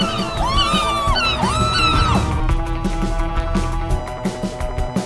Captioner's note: Carmen screaming; gulls squawking